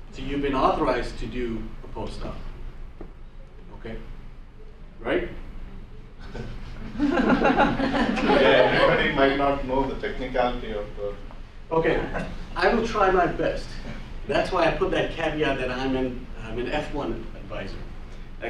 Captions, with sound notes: So you've been authorized to do a postdoc. Okay, right? (students laugh) - [Voiceover] Everybody might not know the technicality of it. - Okay, I will try my best. That's why I put that caveat that I'm an F-1 advisor.